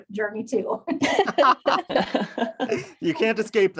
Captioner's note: all laugh